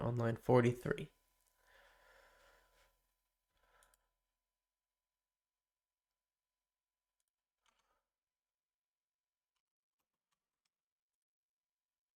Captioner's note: silence